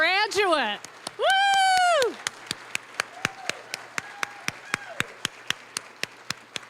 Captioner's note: cheering, applause; applause